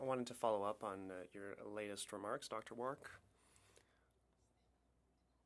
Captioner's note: speaking French